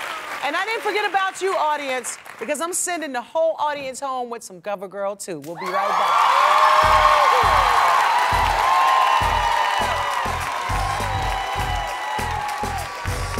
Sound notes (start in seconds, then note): 7.0 applause